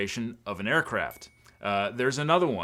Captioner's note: bell chimes